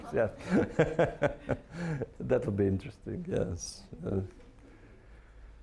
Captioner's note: laughing